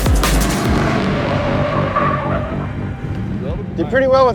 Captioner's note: tires screeching